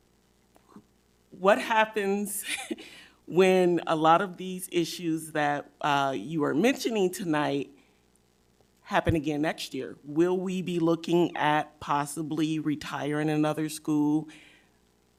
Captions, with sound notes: What happens (laughs) when a lot of these issues that you are mentioning tonight happen again next year? Will we be looking at possibly retiring another school,